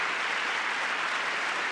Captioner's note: applause